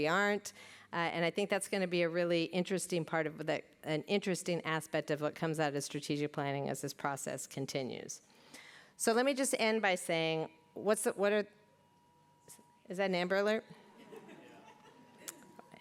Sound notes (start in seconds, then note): 11.3 distant alarm